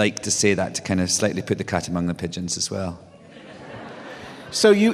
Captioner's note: laughter